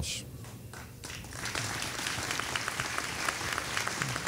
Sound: audience applauding

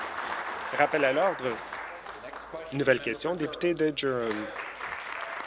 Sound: applause

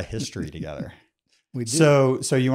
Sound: laughs

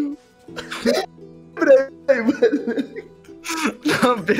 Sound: laughter

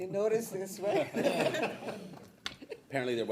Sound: people laughing

